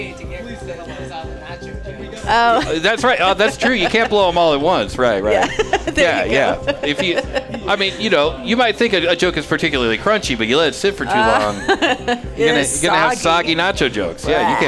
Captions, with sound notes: (laughing) That's right, that's true, you can't blow them all at once. Right, right. (laughing) Yeah, yeah, if you, I mean, you know, you might think a joke is particularly crunchy, but you let it sit for too long. (laughing) It's soggy. You're gonna have soggy nacho jokes, yeah,